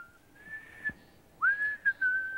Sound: whistling

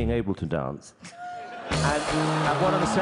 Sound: laughter

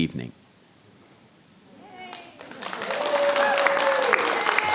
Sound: audience applauding

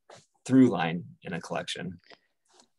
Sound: none

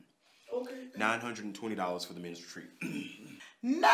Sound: clears throat

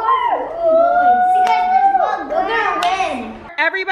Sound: playful chatter

